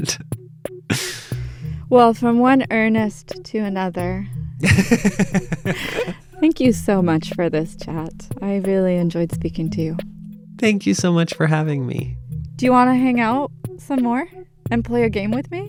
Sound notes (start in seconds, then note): 4.6 laughter